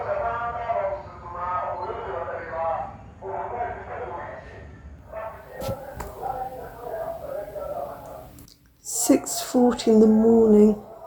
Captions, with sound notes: [shouting continues] Six-forty in the morning.